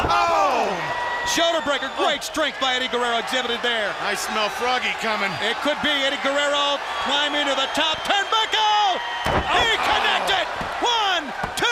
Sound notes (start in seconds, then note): 2.6 crowd chatter